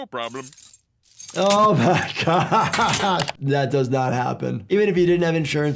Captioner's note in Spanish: risas